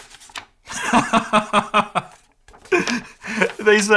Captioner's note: laughs